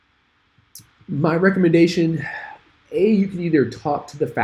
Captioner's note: sighs